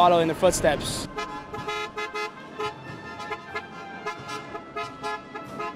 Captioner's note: car horns honk